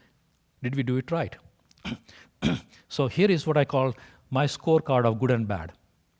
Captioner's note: cough